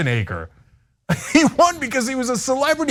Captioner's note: laugh